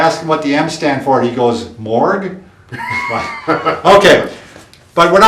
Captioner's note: chuckles